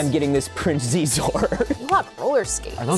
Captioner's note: laughs